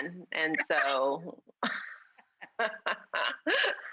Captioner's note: laughing